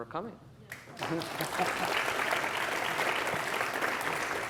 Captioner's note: applause